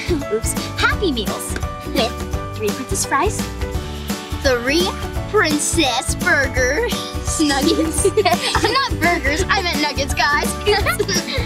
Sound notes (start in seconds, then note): 0.1 laughs; 7.4 giggles